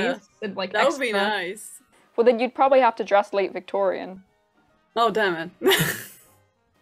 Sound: laughs

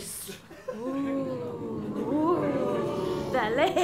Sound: audience oohs

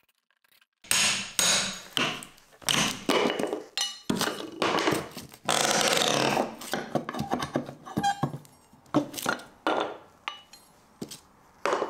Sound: hammer blows removing some flooring

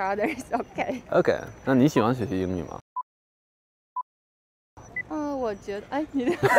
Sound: speaking in foreign language

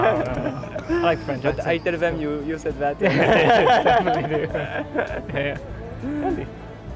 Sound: laughs

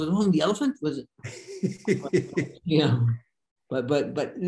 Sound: Denis laughing

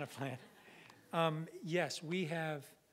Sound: audience laughing

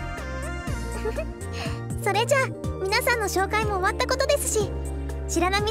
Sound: giggle

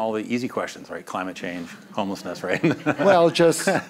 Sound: laughs

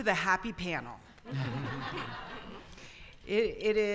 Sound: audience laughter

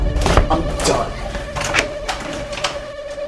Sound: opening of door

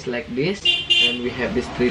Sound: car honking

